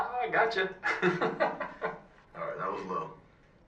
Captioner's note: laughs